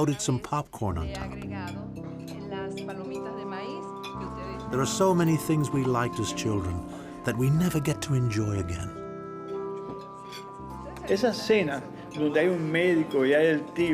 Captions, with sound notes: and floated some popcorn on top.'" -[ Speaking Spanish ] -"There are so many things we liked as children that we never get to enjoy again." -[ Speaking Spanish ]